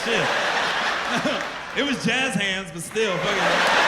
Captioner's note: laughter